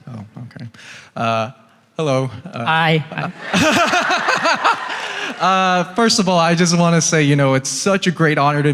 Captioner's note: laughs